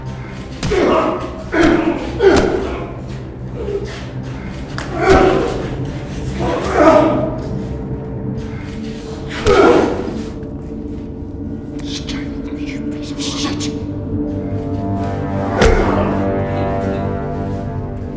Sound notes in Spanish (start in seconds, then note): 4.2 gruñidos; 14.7 música intensa